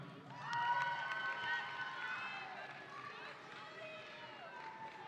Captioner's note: audience cheering